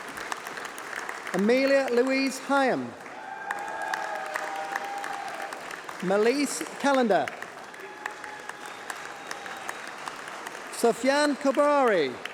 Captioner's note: applause